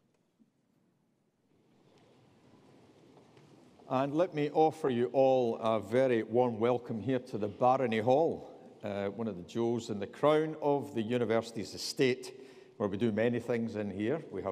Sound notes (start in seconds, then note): none